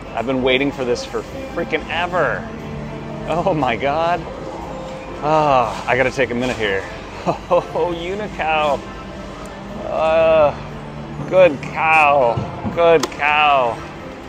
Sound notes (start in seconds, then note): 7.1 sighs